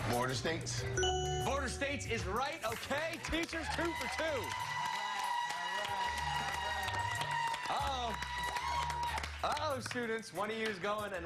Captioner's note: cheers and applause